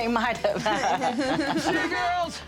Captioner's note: laughter